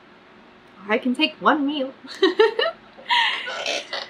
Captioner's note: laughs